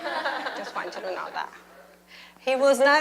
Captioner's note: laughter